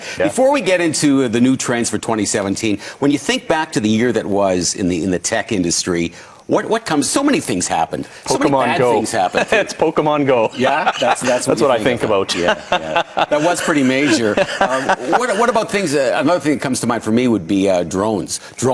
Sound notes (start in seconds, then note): 10.4 chuckling; 13.1 chuckles